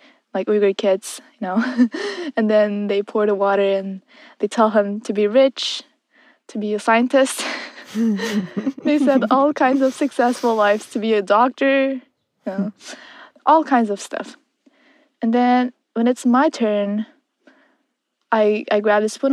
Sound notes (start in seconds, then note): 1.6 chuckles; 7.4 both laugh